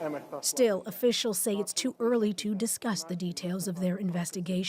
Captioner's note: speaking alternate language